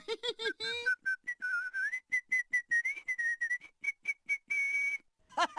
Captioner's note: postman whistling; postman laughing whilst being tickled